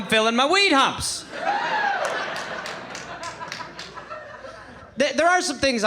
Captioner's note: audience laughing